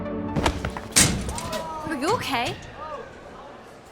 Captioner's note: thud